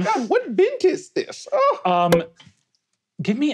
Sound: wine cork popping

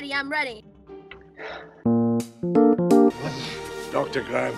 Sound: sighs

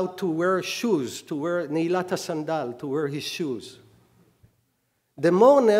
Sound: speaking hebrew

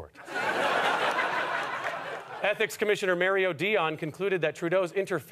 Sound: audience laughter

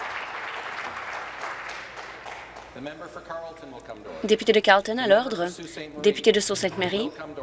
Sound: applause

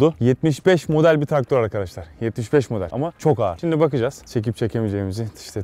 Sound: none

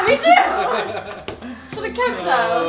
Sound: laughs

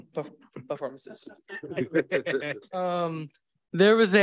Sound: board members laugh

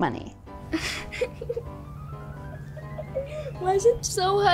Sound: laughing

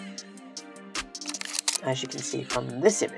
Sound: camera shuttering

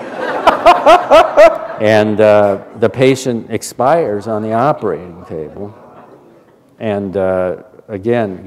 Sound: laughter

